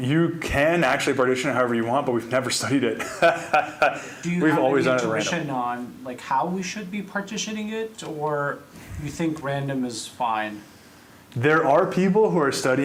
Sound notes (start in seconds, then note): 3.0 laughing